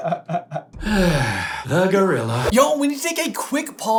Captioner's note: long pained sigh